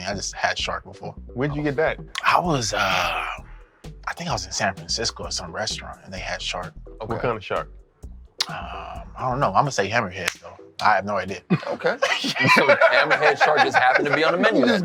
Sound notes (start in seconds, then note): 11.4 laughing